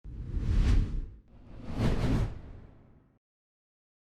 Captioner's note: logo whooshing